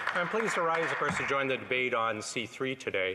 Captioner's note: applause